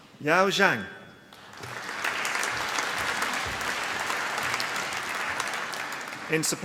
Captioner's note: applause